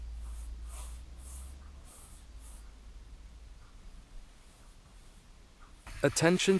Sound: paintbrush strokes rasping continues

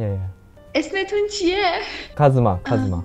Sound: Farsi

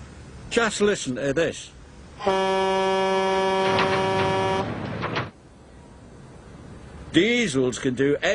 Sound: iron bert honks

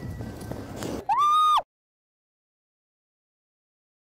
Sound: screams

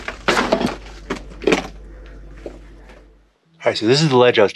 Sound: soft music; bag banging

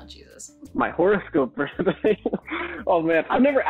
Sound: laughs

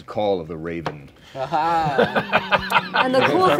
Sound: laughing

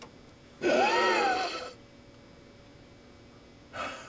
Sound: gasps painfully

